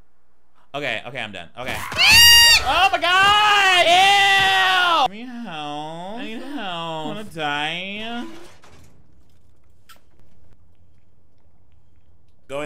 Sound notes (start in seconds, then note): 1.6 zombie, screaming; 8.4 door rattling